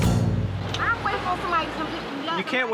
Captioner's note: arguing